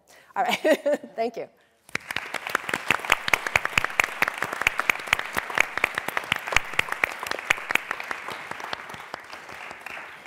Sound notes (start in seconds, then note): 1.8 applause